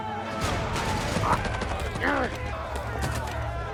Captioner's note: grunting